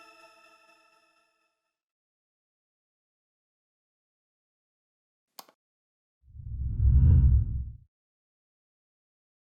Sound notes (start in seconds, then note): 5.3 click; 6.4 whooshing